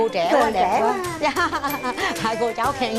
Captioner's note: laughing